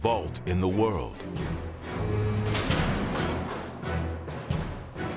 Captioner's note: mechanical door sounds